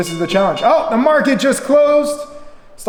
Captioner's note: bell dings